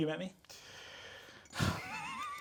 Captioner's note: Sam inhaling; both laughing